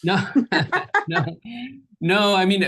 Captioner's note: group laughs